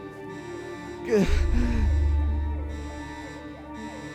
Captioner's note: sobbing